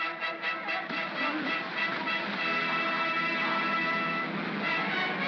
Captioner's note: triumphant music; water splashing; mob cheers; triumphant music